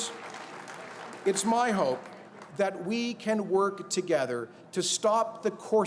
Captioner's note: applause